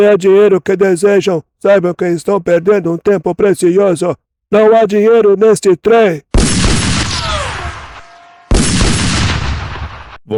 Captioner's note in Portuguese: grito